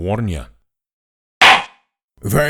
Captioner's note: gavel slams!